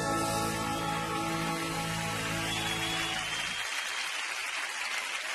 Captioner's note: aududience cheering and applauding